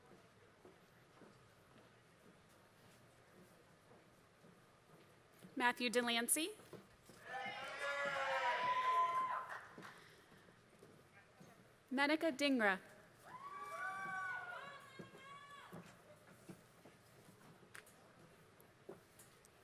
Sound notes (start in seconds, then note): 7.7 applause; 14.6 applause